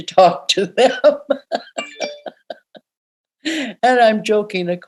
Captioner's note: laughing